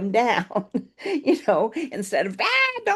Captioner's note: laughs